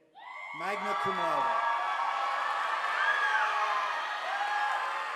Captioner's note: audience applauding